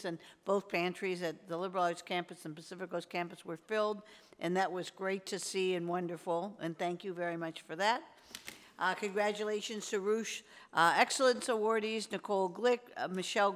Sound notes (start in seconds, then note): none